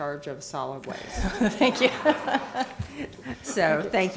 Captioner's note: laughter